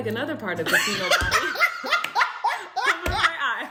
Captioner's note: laughter; sound of clapping